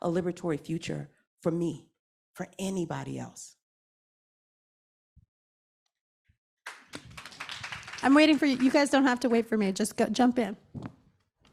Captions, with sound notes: a liberatory future for me, for anybody else? (audience applauding) - I'm waiting for you. You guys don't have to wait for me. Just jump in.